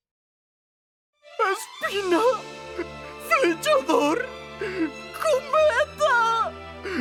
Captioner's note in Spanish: Llorando